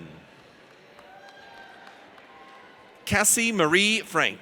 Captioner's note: audience cheers